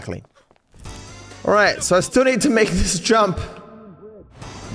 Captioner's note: voice echoes